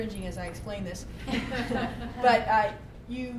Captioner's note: laughter